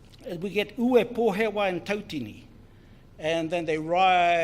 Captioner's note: speaks in foreign language